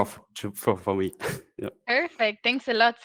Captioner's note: chuckles